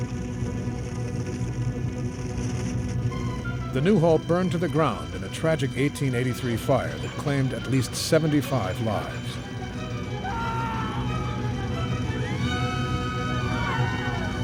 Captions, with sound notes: The Newhall burned to the ground in a tragic 1883 fire that claimed at least 75 lives. (people screaming) (tragic music)